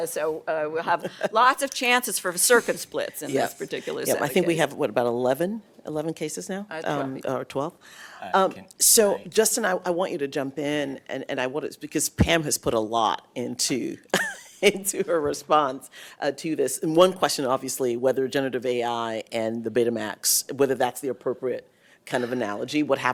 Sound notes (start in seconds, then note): 14.1 laughter